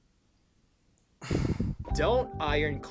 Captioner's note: sigh